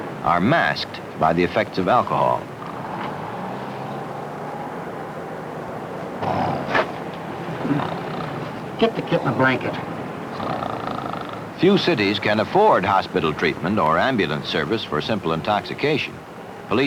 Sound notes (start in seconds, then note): 2.5 street traffic and city noise; 6.0 gasping for air and snoring; 10.3 snoring